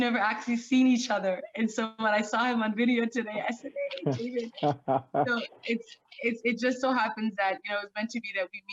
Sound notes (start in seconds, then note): 4.6 laughing